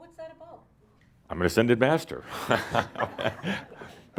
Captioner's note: chuckles